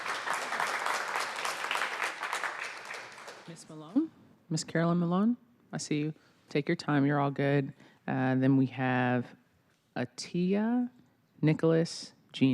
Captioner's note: applause